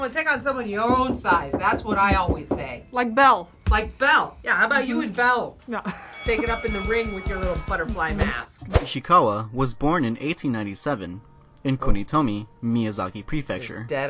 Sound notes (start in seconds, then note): 5.9 laughs